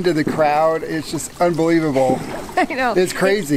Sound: laughing

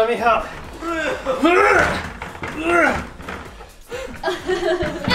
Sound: grunting

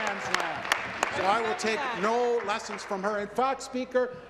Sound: applause

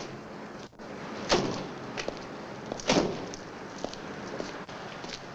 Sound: car doors slam

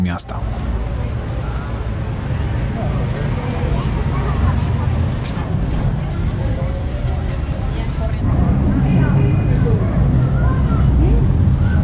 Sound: city buzz

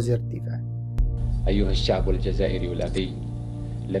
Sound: Boumediene in classical arabic

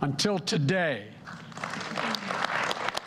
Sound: applause

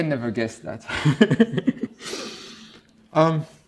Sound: laughs

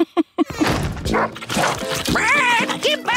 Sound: chuckles; barking; squawking

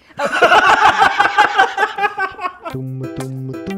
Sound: laughter

